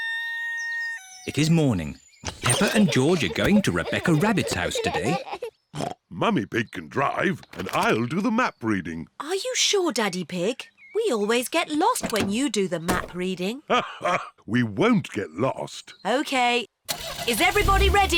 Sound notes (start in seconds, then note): 0.0 rooster crows; 6.4 snorts; 13.6 laughs